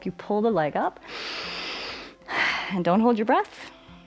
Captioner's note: inhales and exhales